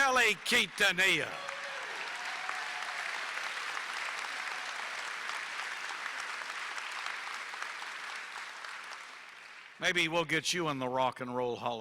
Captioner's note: applause